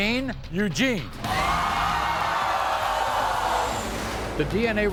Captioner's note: audience cheering